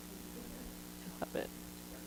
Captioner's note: laughs